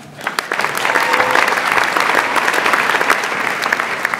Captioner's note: audience applauds